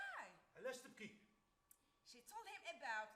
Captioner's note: man speaks Arabic